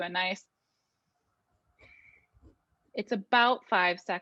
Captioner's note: breathing in and out